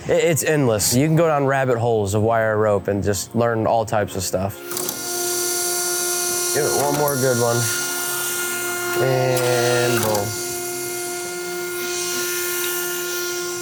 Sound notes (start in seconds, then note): 4.7 machine whirring; 10.6 machine whirring